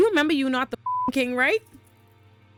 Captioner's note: beep